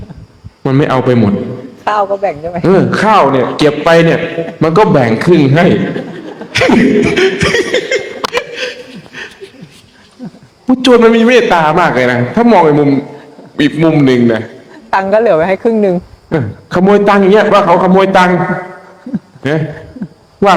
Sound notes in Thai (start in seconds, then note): 8.1 เสียงหัวเราะ